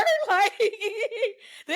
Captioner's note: laughing